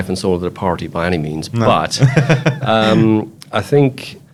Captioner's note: laughs